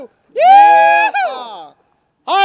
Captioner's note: cheering